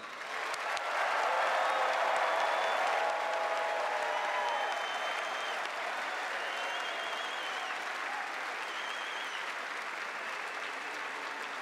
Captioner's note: cheers and applause